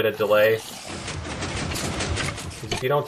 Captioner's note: pistons shifting